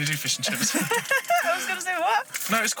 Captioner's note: laughing